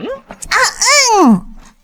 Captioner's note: ahem